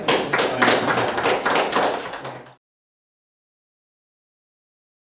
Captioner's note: audience clapping